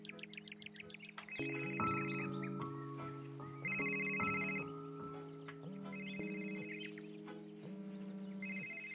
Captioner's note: phone ringing